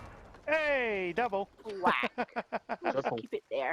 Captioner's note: laughs